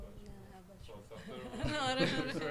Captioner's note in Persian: خنده